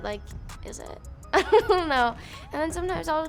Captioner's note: laughs